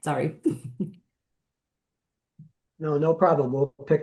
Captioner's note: chuckling